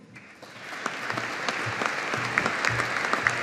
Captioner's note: audience applauding